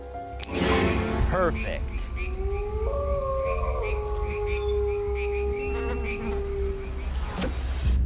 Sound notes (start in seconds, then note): 2.2 wolf howling; 4.4 fly buzzing